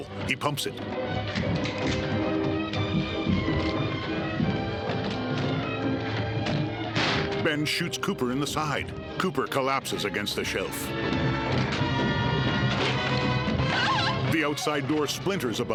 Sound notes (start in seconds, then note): 0.1 dramatic music swelling; 6.9 gunshot